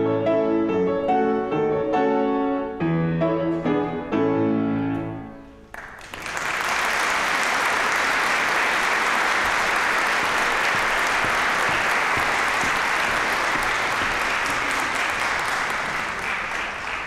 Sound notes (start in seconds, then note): 0.0 energetic piano music; 5.6 applause